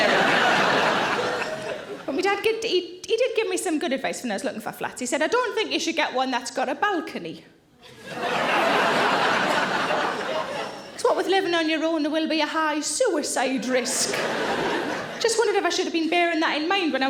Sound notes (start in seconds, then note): 0.0 audience laughing; 7.9 audience laughing